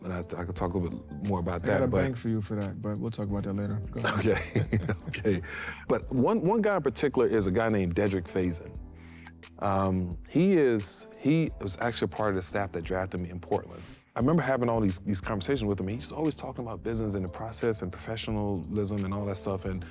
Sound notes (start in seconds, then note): 4.0 laughs